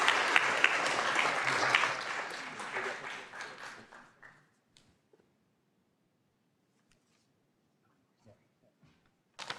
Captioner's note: applause